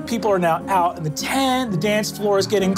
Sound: none

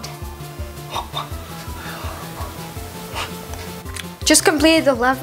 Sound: whooshing

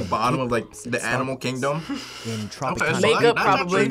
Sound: laughs

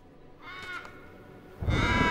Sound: cawing

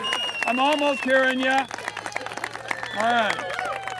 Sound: cheering and applauses

